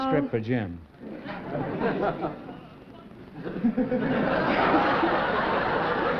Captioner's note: laughter